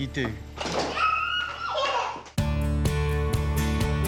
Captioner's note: giggling